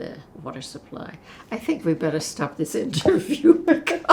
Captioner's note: laughing